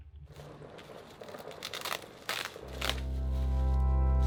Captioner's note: plastic crackling; somber music playing